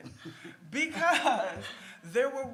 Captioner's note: laughs